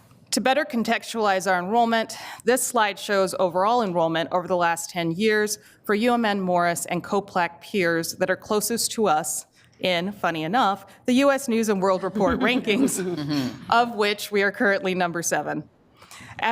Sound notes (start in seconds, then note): 12.0 group laughs